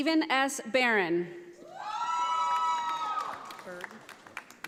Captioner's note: audience applauding